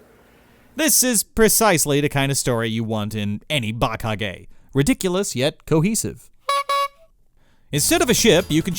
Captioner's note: honk honk